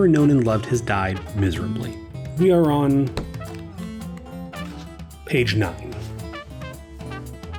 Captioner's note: pages turning